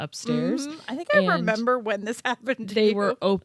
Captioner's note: laughing